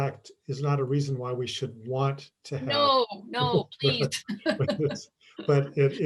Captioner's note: chuckles